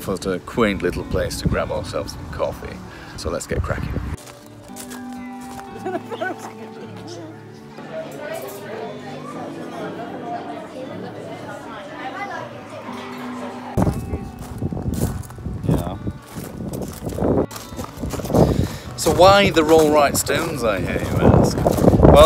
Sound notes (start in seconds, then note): 4.8 soft acoustic music; 8.2 background chatting; 13.7 wind blowing